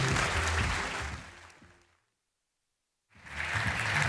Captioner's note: applause